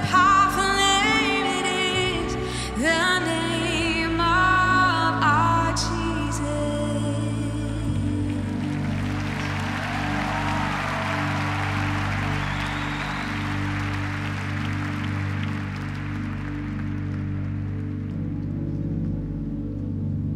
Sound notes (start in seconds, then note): 8.3 audience applause